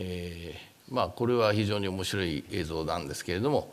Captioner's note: speaking japanese